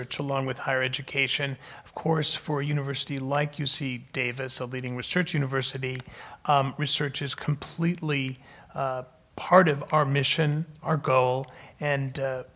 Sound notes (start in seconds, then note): none